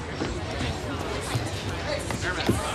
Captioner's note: people chattering